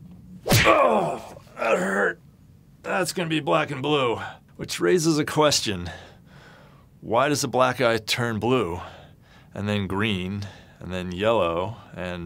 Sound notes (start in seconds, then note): 0.4 punching noise